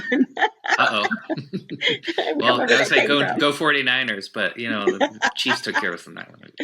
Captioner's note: laughs